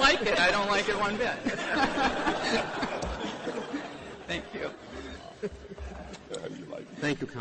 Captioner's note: laughter